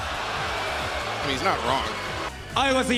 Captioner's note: mixed crowd reactions